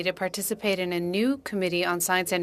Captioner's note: speaking French